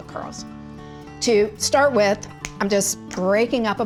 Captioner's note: chocolate snaps